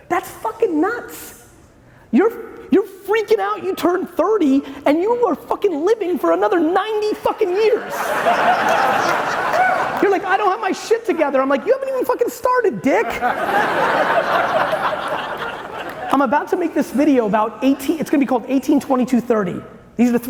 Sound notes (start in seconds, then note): 7.6 audience laughing loudly; 13.0 audience laughing